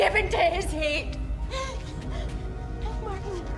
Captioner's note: Caroline gasps